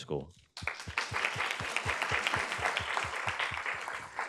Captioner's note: audience claps